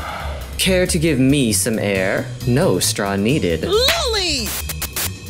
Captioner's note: muffled "mmm", followed by exhaling; Harsh slap sound plays as Bubble hits Lollipop; static sound